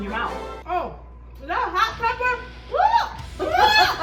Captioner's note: screams; laughs